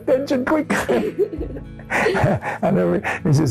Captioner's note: laughs